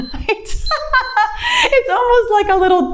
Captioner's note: laughs; timer beeps